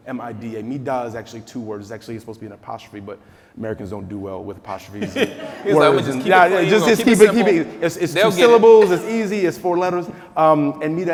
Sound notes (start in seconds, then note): 5.0 laughing; 6.3 speaking quietly